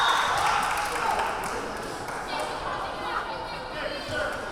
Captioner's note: clapping; whistle blowing; yelling